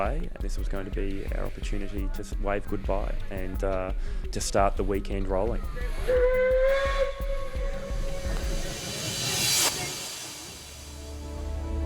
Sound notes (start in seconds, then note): 6.1 train whistles